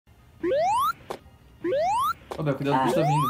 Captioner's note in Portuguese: som de pulo do sonic